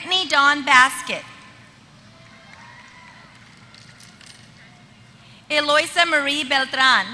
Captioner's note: applause